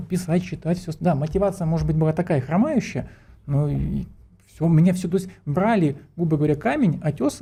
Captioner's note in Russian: фыркает